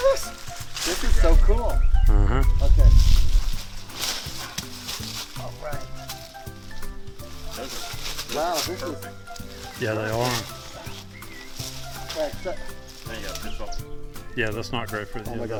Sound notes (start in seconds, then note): 4.1 rustling leaves; 6.6 fun music